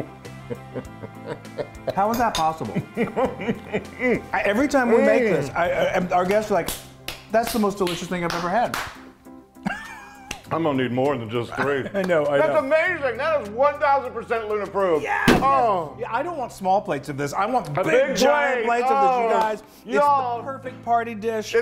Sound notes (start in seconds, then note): 0.3 laughs; 3.4 moaning; 8.7 clapping; 9.6 laughs; 12.0 claps